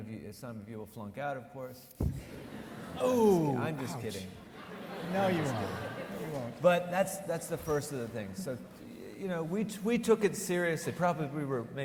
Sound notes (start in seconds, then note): 2.2 audience laughing